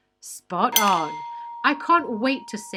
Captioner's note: bell dings